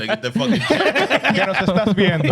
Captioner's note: laughing